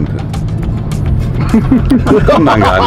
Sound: laughter

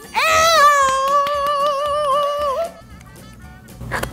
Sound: woman squeals

